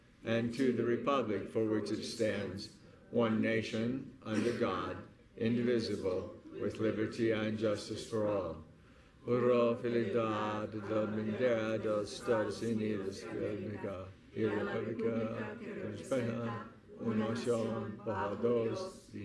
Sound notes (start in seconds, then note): 9.2 speaking in foreign language